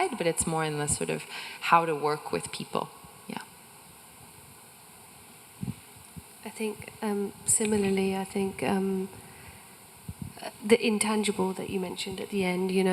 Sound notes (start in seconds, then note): none